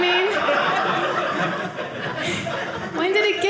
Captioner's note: audience laughing